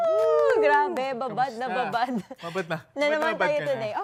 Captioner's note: chuckles